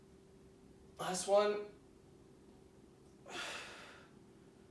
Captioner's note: exhaling